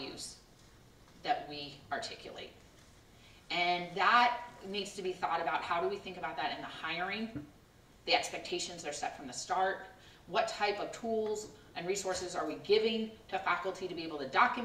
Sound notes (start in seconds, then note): none